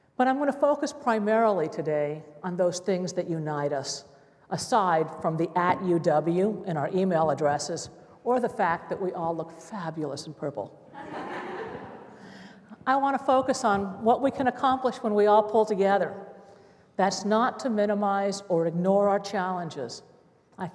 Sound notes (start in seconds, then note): 10.9 laughter